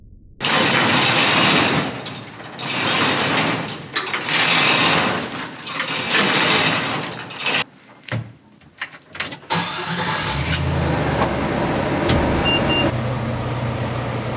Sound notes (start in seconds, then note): 0.4 garage door opens; 9.4 engine starts